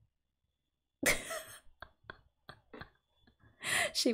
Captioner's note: laughs